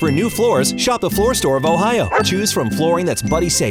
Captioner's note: dog barking